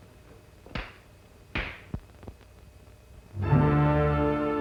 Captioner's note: claps